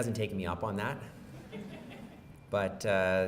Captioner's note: laughs